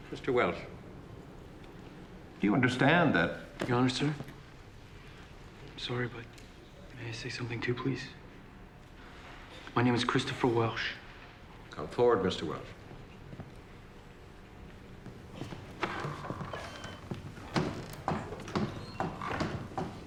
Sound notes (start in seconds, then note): 15.1 door opens, closes